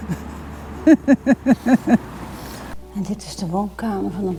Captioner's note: laughter